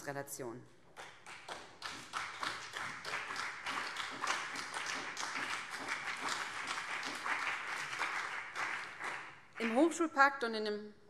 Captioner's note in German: Beifall BÜNDNIS 90/DIE GRÜNEN und vereinzelt CDU